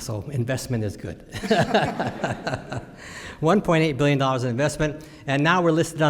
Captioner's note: laughs